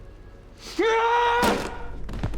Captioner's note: yells